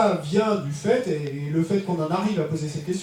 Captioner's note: speaking in French